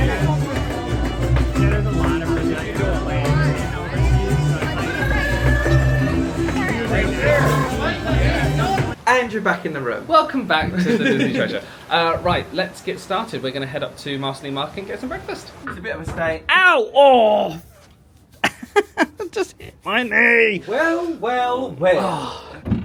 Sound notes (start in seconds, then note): 0.0 upbeat music; 0.0 crowd chattering; 17.0 groans; 18.4 laughs